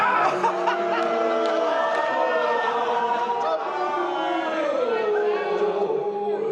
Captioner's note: laughing; booing